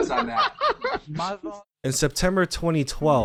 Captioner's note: man laughing